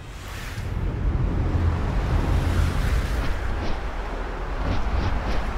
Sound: rapid wind sound

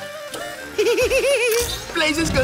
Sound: laughing

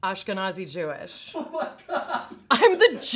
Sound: man laughing

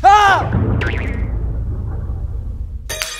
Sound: startled by loud pops

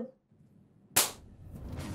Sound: hand clapping

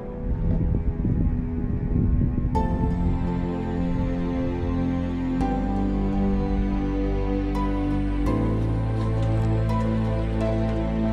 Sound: breeze blowing

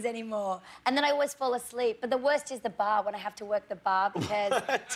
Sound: laughter

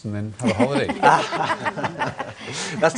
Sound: laughter

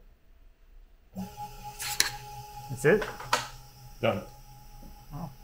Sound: laser whines

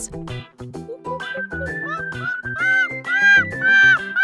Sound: monkey chitters

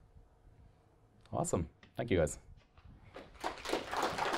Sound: applause

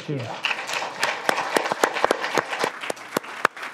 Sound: audience claps

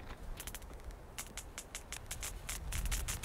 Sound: sparking and crackling

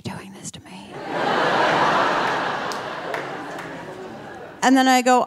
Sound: audience laughing

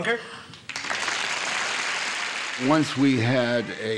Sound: audience clapping

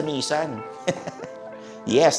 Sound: laughs

